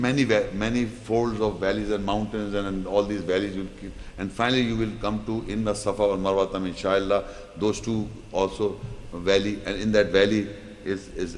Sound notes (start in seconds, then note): 5.5 Arabic